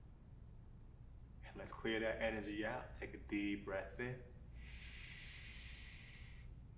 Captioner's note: inward breath